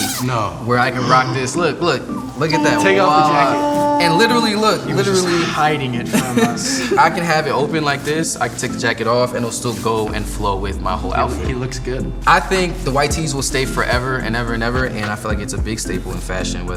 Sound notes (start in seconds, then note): 7.1 laughs